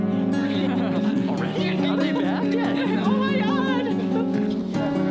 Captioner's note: people chatter and laugh indistinctly